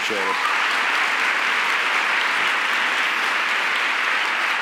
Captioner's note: audience applauds